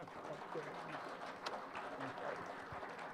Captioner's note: applause